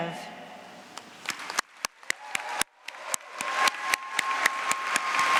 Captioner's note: applause